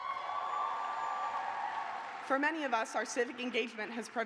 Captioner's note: cheers and applause